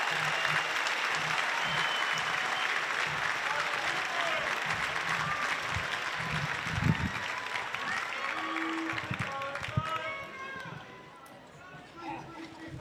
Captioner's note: applause